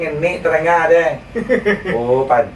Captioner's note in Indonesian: tertawa